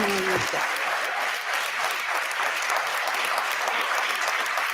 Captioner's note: audience applauding